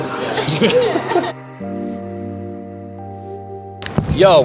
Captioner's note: people laughing